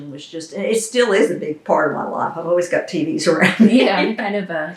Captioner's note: laughs